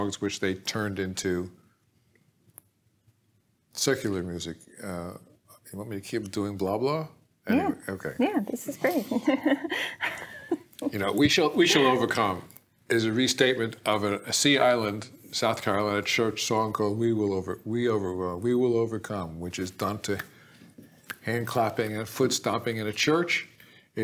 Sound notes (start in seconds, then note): 8.7 laughing